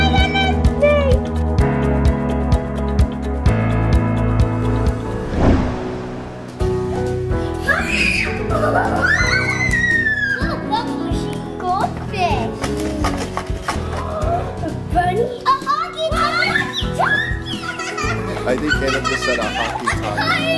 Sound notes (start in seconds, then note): 4.8 swooshing; 6.1 cheerful piano music; 7.6 children squealing; 17.9 smallest girl laughing